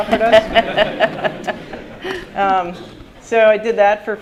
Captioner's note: laughter